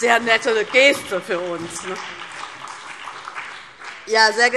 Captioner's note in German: Beifall DIE LINKE und SPD